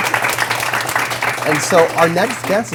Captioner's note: applause